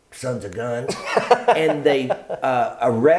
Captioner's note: laughs